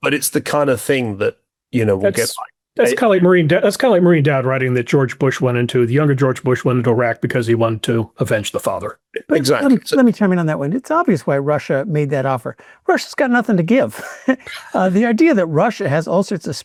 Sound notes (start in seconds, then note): 14.0 laughs